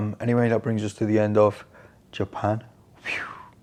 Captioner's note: none